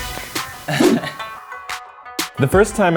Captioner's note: upbeat music; laughs